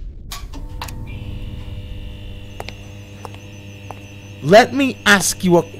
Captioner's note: mad scientist lab sounds